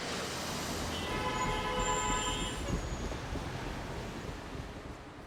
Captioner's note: horns honking